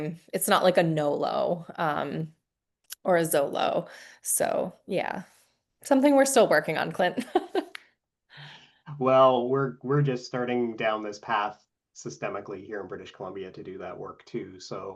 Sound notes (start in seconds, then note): 8.9 laughing